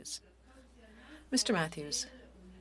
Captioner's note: speaking French